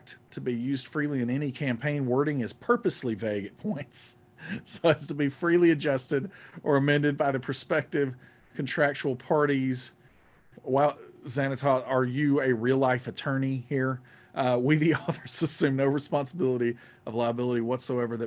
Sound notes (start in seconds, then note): 15.1 laughing